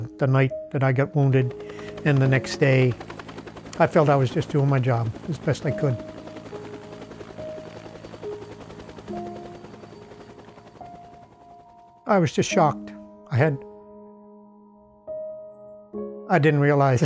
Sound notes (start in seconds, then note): 7.2 music and Helicopter Sounds